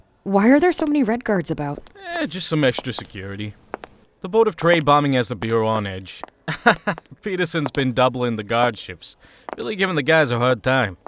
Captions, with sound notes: Why are there so many Red Guards about? Eh, just some extra security. The Board of Trade bombing has the Bureau on edge. [Michael chuckles] Peterson’s been doubling the guard shifts, really giving the guys a hard time.